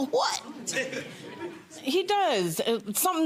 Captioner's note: audience laughs